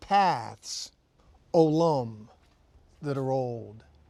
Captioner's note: speaking in Hebrew